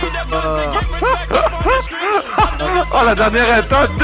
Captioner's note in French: rires